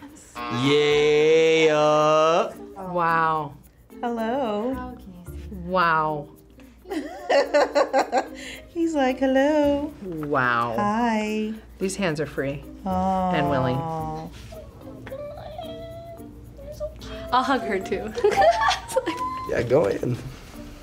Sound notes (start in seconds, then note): 0.1 buzzer; 6.6 laughs; 17.0 laughs